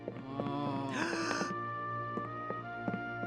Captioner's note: moaning; gasp